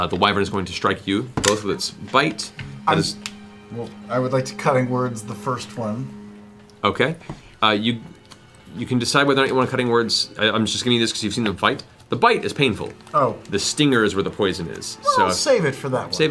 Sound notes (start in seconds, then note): none